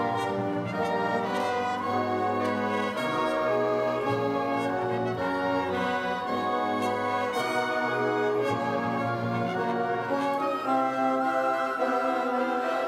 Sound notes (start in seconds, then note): none